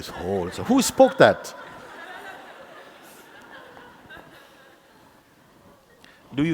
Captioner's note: laughter